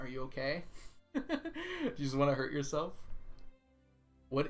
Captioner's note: laughs